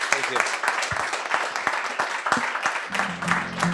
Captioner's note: crowd applauds; gentle guitar music